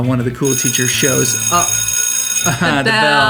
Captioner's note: school bell ringing